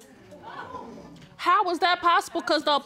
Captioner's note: audience exclaims